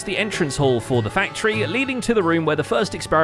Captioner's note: none